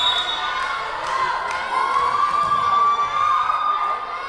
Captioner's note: whistle blowing